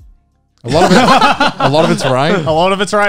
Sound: everyone laughs

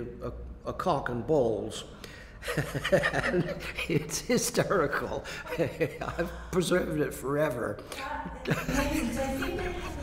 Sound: laughs

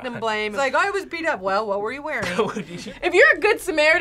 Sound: laughs

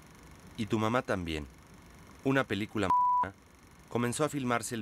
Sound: beep

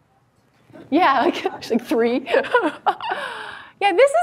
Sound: laughs

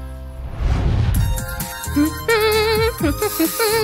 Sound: humming

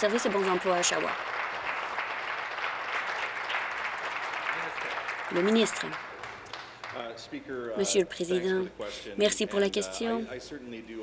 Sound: applause

